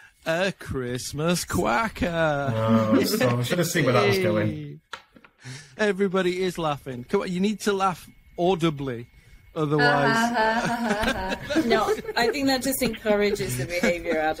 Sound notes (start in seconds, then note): 9.8 laughing; 9.9 laughs